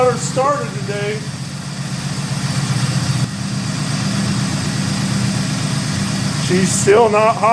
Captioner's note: engine idling